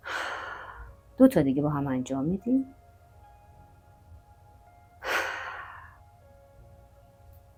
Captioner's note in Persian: صدای آه; صدای آه